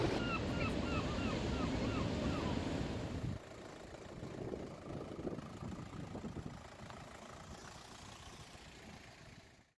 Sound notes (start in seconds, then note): 0.0 seagulls; 2.3 engine noise